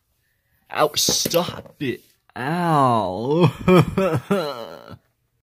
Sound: crying

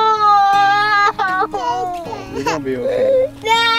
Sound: crying

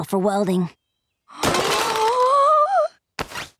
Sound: gasping

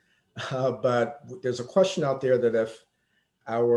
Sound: chuckles

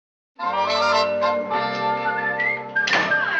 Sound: whistling

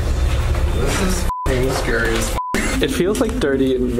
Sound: beep

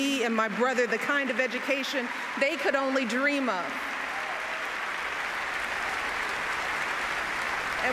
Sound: applause

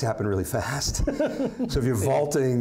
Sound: laughing

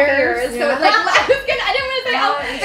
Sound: laughter

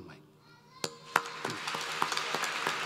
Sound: applause

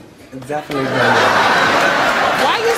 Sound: audience laughs

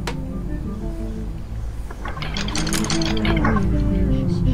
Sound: note recording playing

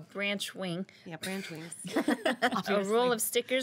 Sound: girls laughing

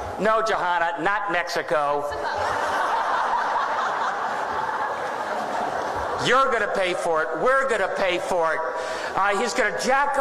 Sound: laughter

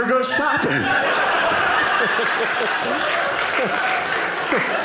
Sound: audience laughing

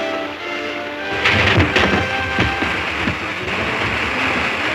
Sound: logs rumbling

